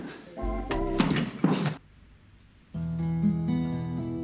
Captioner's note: board thumping; John thudding; melancholy music